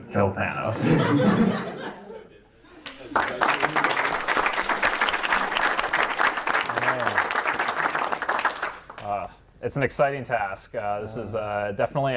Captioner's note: audience laughter; applause